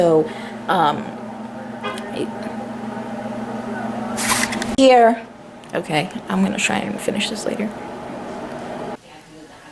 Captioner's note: car horn beeps